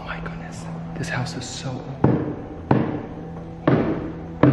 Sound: thumping

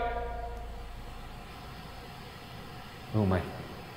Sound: static hums

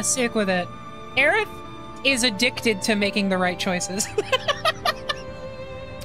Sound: laughter

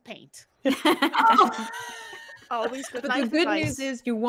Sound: all laughing

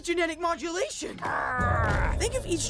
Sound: grunting

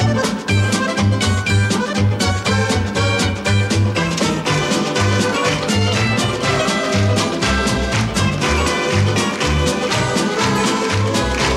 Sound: applause

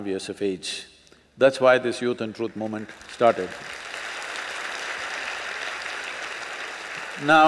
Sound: applause

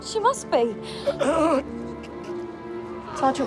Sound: Sergeant Woolf groans

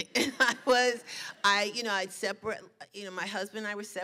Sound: laughs

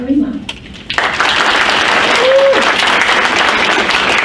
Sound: crowd applauds

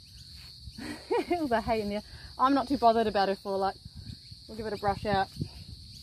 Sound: laughs

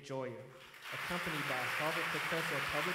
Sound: audience applauds

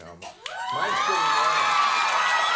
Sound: audience cheers

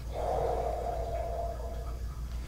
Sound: sigh

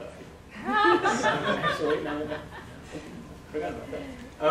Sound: audience laughter

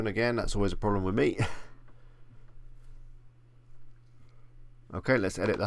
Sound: chuckles

